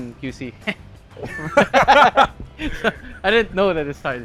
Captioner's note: laughs